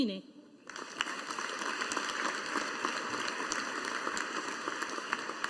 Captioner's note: audience applauding